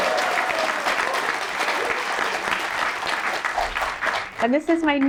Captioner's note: applause